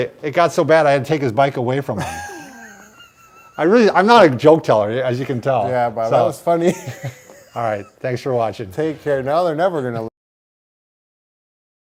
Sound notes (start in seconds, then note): 1.9 laughter; 6.6 laughter